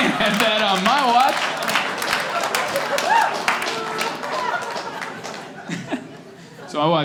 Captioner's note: clapping